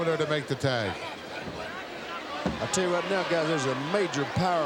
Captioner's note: applause